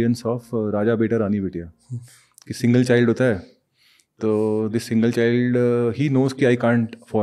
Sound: speaks in Hindi

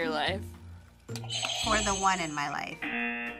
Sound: buzzer; buzzer rings

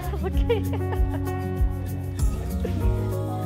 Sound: laughing

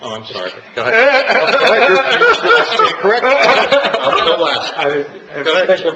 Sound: laughs loudly

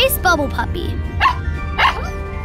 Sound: barking

